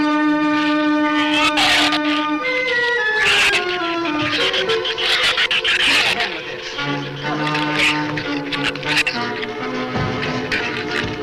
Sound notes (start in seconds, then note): 1.2 shrew snarls; 7.6 shrew snarls